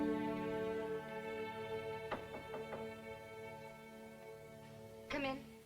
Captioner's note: knock on door